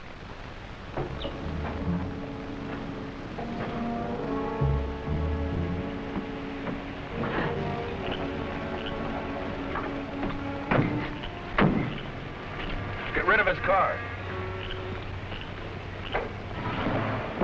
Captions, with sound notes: (tense music) (frogs croaking) (metallic thudding) (frogs croaking) - Get rid of his car!